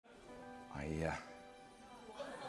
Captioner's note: voice breaking